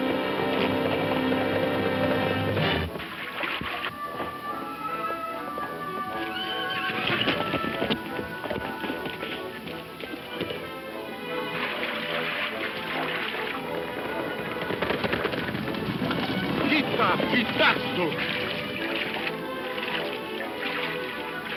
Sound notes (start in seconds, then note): 6.1 horse neighs; 8.0 hooves thumping; 11.6 water splashing; 15.0 hooves thumping; 17.6 speaks in foreign language; 19.2 water splashing